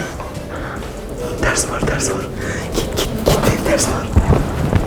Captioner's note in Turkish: sessizce